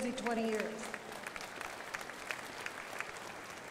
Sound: crowd applauding

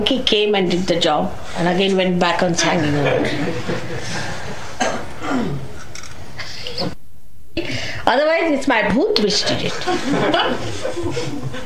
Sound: laughter

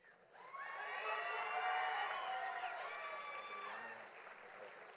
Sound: audience applauding

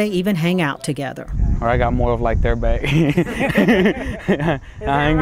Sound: laughs

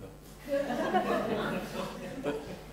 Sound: laughter

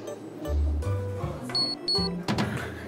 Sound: beep

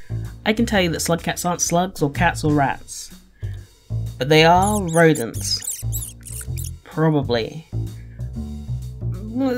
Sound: squeaking

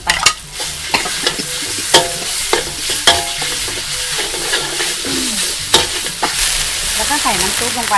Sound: stirring sound

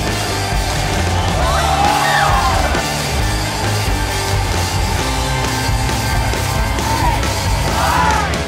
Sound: shouting

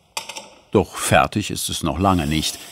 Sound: none

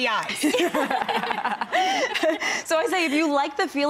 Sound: laughing

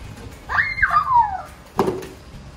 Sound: happy squeal

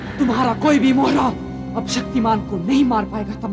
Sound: none

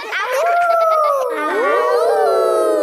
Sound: howling; kids howling

